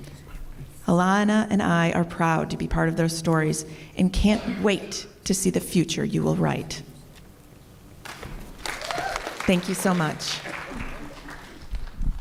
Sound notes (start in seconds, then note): 8.5 applause